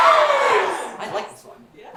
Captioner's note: audience says yes